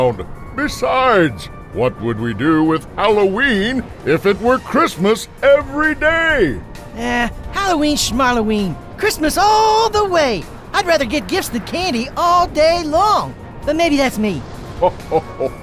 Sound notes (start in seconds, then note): 13.3 Santa chuckling